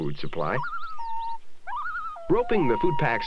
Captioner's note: sound of wailing loon